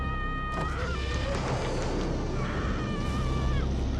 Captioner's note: door creaking; moves to dramatic theatrical music